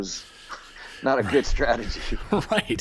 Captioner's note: chuckles; chuckling